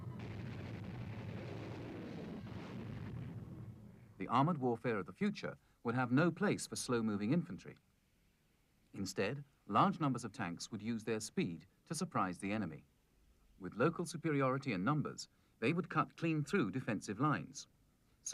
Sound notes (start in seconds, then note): 0.0 airplanes flying; 2.4 bomb explodes